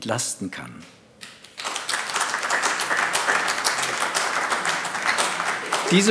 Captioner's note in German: Beifall AfD